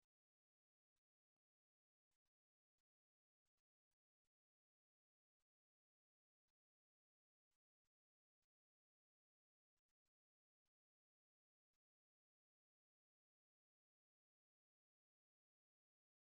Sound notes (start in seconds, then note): none